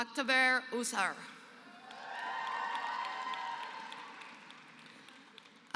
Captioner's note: applause